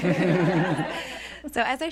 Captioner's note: laughter